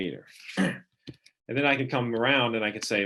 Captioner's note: clearing throat